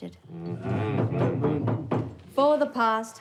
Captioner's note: guest banging